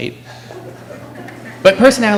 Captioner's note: laughter